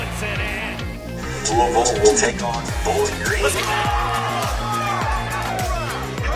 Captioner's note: cheering